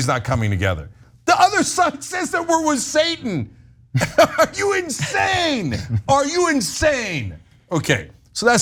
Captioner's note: laugh